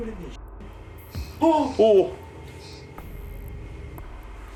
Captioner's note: The sound from the EMF device